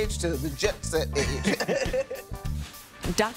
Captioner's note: laughing